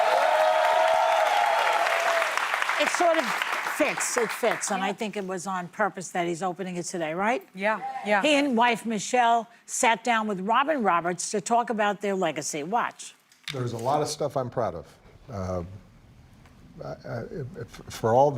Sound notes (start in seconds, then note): 3.8 cheers and applause